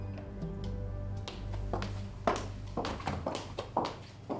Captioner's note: footsteps